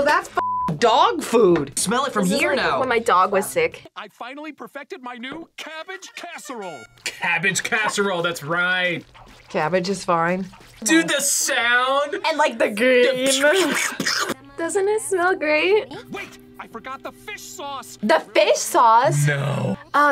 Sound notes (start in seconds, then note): 13.3 imitates splatting